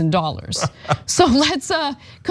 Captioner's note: laugh